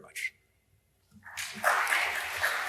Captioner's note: applause